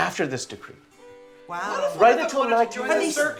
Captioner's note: mixed chatter